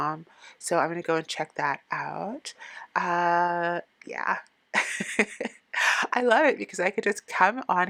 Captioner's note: laughing